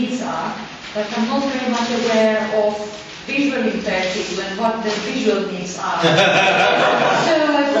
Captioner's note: audience laughs